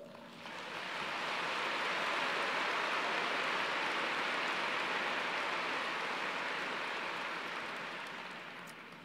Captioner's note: applause